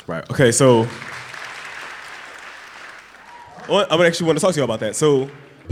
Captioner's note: applause